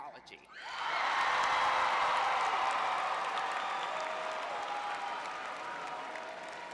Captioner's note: cheering